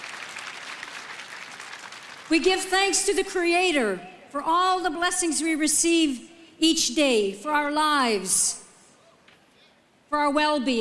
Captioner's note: applause